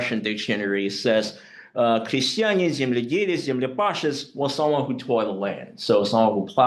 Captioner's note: speaking Russian